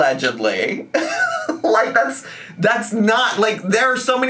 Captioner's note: laughing